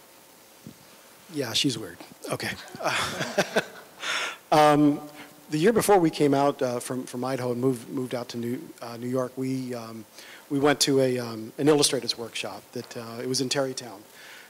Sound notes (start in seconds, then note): 2.7 laughter